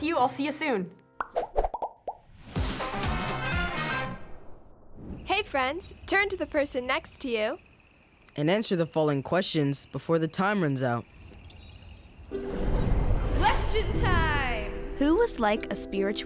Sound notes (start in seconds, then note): 2.6 upbeat music; 11.8 birds chirping; 12.3 soft music